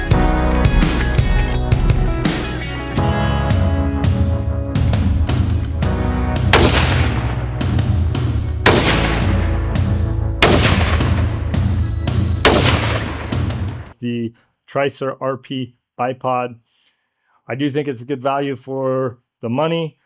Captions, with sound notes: [gunshots] The Tricer RP Bipod. I do think it's a good value for the money.